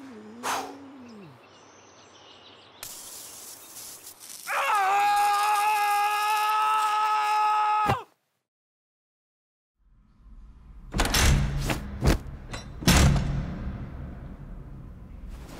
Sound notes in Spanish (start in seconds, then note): 0.0 John Titor suspira; 2.8 Sonido de spray; 4.7 John Titor grita; 10.8 Se abre puerta, lanzan a John Titor y se cierra la puerta